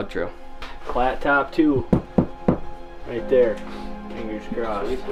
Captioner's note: knock,knock,knock